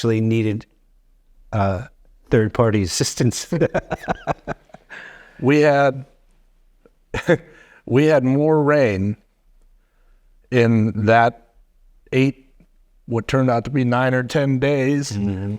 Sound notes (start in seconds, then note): 3.4 chuckling